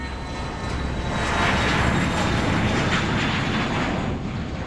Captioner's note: plane engine roars